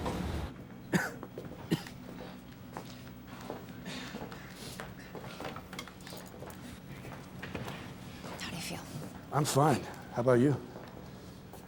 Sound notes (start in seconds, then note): 0.9 coughing